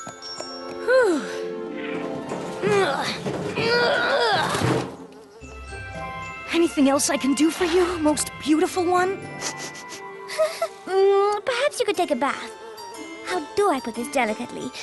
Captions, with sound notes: Whew! [ Grunting ] Anything else I can do for you, most beautiful one? [ Sniffs, whimpers ] Perhaps you could take a bath. How do I put this delicately?